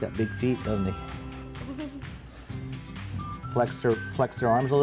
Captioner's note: kids laugh